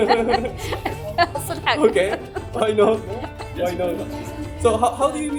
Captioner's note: laughs